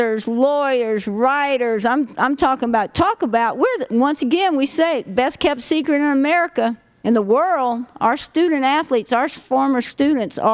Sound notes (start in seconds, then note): none